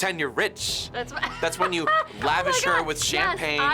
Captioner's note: laughs